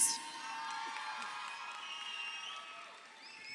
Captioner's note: crowd cheering